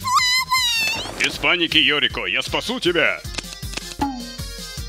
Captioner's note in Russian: звук щелчков опустошенного револьвера